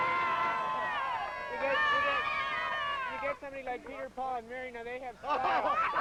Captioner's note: crowd cheering